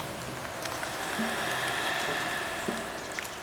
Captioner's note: bird song; rain fall